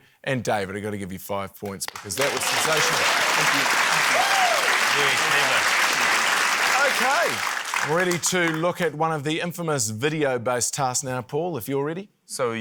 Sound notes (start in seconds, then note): 1.8 applause